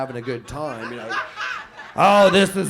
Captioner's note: audience laughs